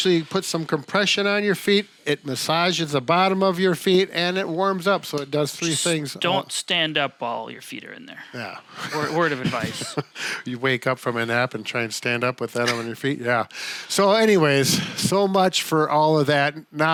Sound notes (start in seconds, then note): 8.7 laughing; 12.6 giggling